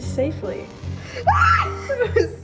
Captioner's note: scream